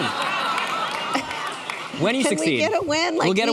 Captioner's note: laughing